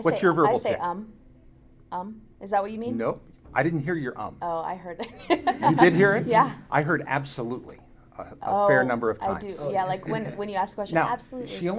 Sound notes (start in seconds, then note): 5.0 laughs; 5.2 audience laughing